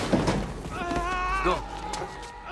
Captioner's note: groaning